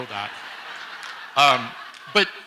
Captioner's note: audience laughs